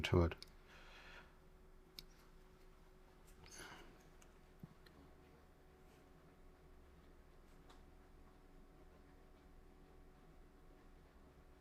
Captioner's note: silence